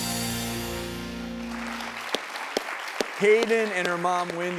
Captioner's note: applause